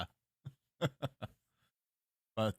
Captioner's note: small laugh